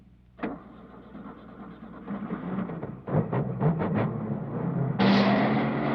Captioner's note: car starting